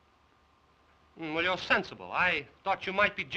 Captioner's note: none